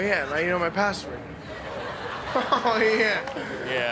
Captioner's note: laugh